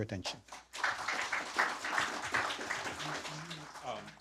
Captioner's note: applause